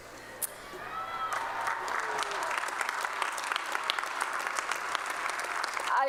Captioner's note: applause